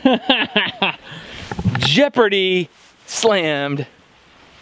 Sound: laughs

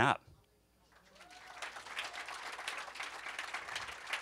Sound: applause

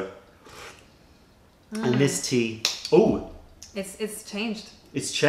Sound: sips tea

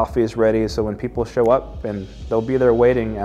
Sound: fingers snapping

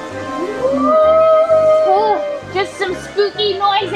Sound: ghost howling

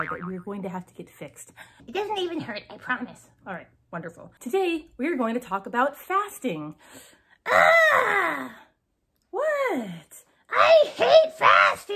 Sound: screams

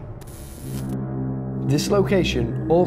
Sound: static crackling

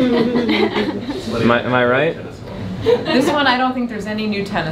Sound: laughter

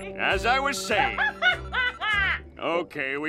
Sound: laughing

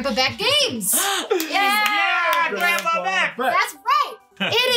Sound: cheering

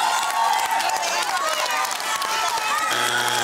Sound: cheering and applause

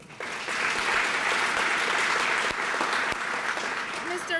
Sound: applause

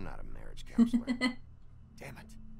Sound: chuckles

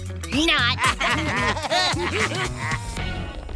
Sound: laughing

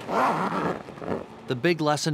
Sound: zipper closing

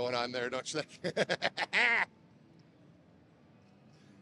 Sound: laughter

